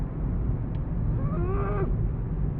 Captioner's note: growls with anger